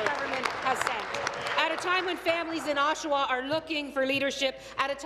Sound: applause

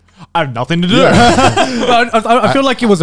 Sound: both laughing

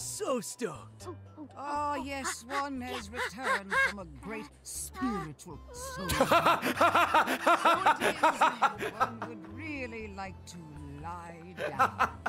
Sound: laughs

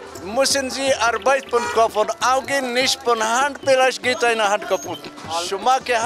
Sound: German language

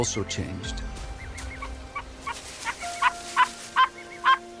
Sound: fox barks

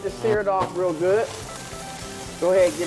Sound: sizzling sound

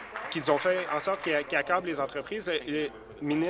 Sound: applause

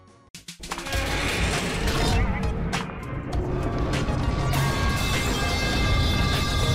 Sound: loud screeching of metal

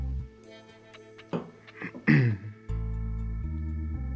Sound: clears throat

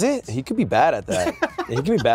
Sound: laughs

